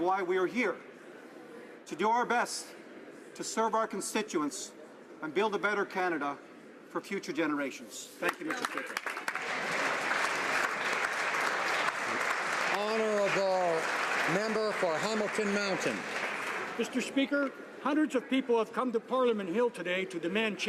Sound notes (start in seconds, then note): 12.7 applause